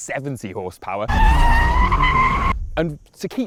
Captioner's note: brakes squealing